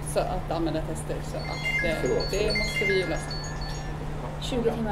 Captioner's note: phone rings